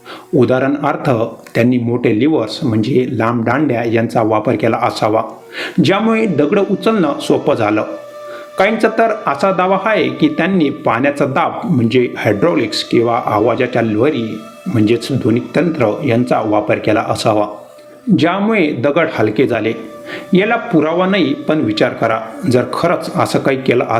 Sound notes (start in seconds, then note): 13.8 hydraulics